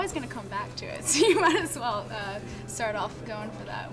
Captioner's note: laughs